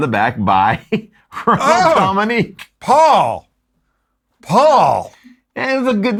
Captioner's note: laughs